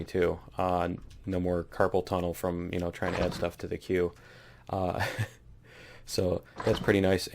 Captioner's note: laughs